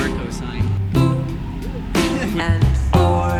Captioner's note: laughs